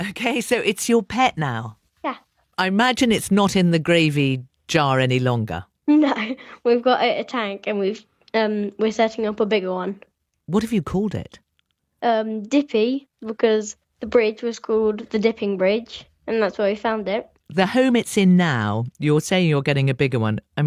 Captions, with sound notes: Okay, so it's your pet now? Yeah. I imagine it's not in the gravy jar any longer. No. [laughs] We've got it a tank, and we've, um, we're setting up a bigger one. What have you called it? Um, Dippy because the bridge was called the Dipping Bridge, and that's where we found it. The home it's in now, you're saying you're getting a bigger one.